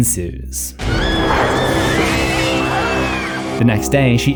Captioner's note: woman screeching